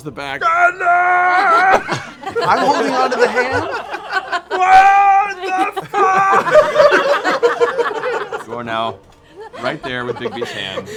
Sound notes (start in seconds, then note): 0.4 screaming; 4.4 screaming; 9.3 laughter